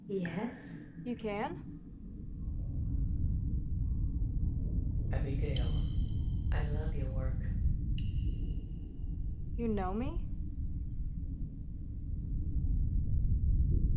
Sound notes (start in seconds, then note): 2.9 wind blows